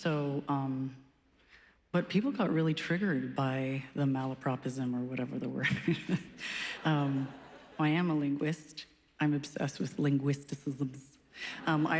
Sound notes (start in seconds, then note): 5.7 chuckles